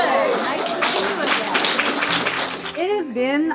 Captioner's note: audience applauding